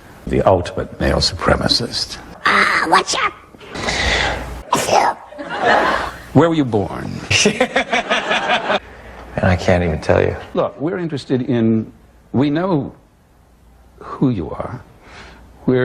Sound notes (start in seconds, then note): 2.3 raspy; 3.7 inhale